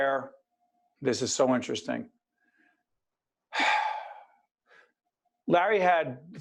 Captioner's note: sigh